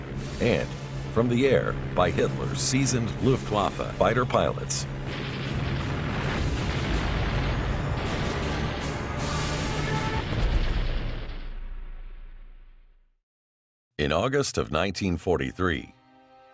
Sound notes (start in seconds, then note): 4.9 machine gun cracking